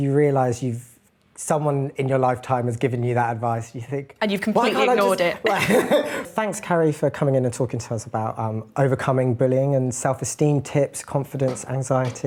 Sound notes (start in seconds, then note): 4.7 laugh